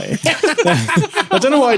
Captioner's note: laughs